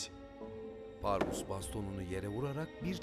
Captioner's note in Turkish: Baston vurma sesi